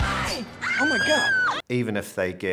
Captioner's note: screams